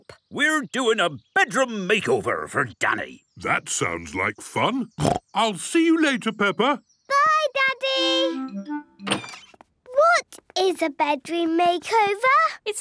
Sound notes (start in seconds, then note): 5.0 snorting